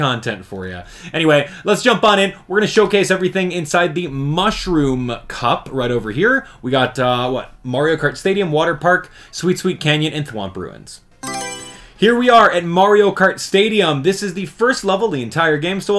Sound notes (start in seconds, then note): 11.2 Mario Selection Sound